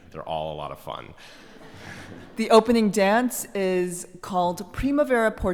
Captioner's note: laugh